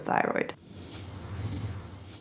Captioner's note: whooshing